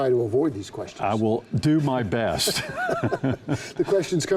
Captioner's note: both laugh